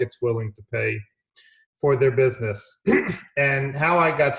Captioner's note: clears throat